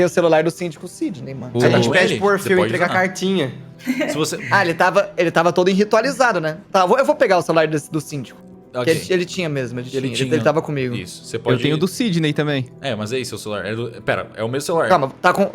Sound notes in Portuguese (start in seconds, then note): 3.8 risos